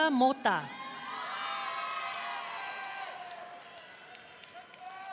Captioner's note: audience cheering